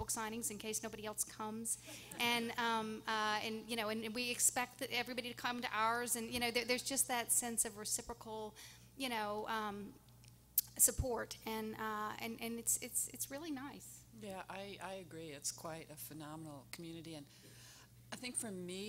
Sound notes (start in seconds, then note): 1.9 audience laughing